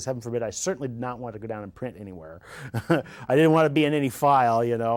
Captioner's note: laughing